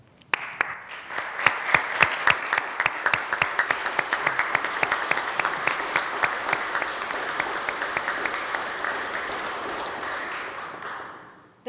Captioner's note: applause